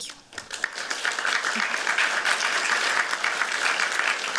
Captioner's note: applause